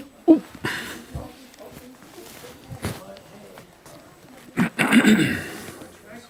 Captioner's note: laughter